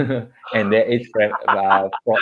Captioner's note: laughter